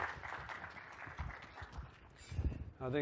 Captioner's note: applause